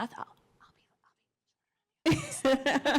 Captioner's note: whispering; laughing